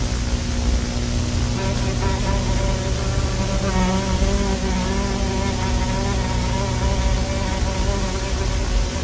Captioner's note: fly buzzes